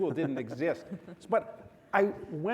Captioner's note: panelists and audience chuckle